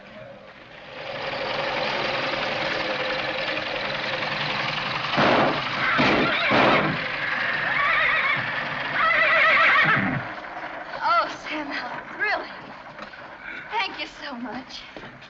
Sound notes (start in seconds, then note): 5.7 horse whinnies